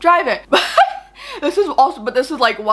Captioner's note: laughs